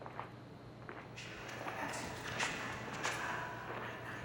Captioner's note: voice whispers